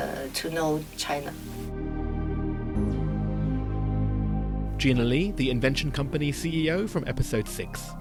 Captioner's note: voiceover